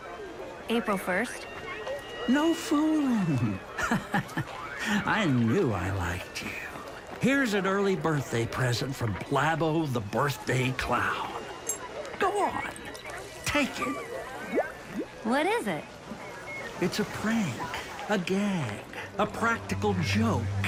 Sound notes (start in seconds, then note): 3.2 laughs; 13.8 liquid bubbles